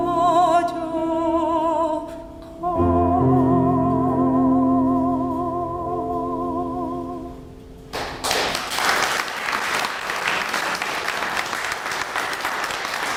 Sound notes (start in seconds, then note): 7.9 applause